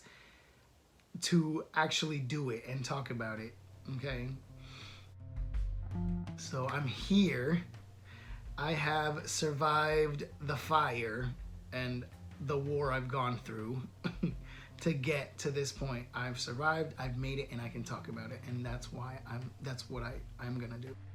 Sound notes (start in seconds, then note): 13.1 scoff